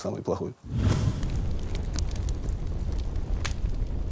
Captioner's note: fire crackling